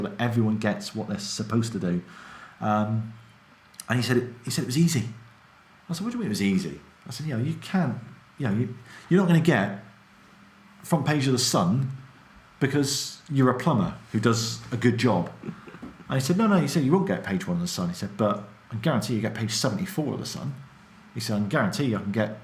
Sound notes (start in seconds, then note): 15.2 laughs